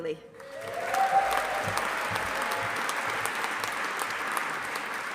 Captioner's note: audience applauding